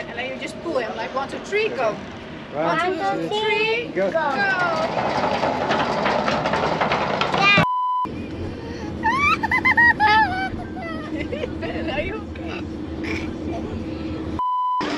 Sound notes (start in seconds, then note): 8.8 laughing